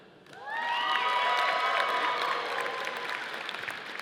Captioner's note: audience applauding